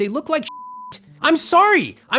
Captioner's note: beep